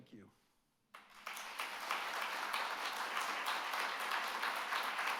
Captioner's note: audience clapping